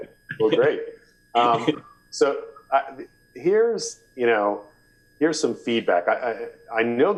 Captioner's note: laughter